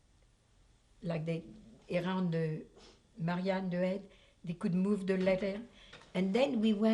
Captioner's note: french